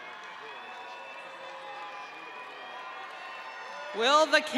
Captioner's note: audience cheering